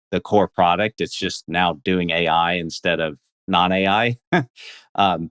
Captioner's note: laughs